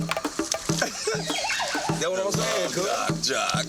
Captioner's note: man laughing